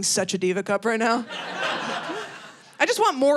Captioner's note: audience laughing